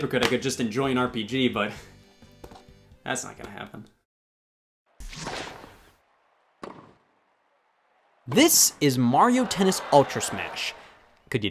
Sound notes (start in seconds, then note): 5.0 logo whooshes